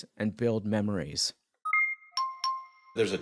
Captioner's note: alert chiming